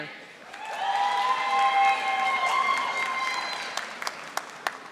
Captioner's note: audience applauding